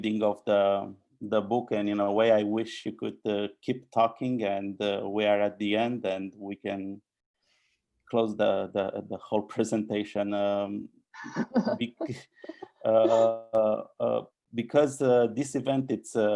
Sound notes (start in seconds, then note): 10.4 laughing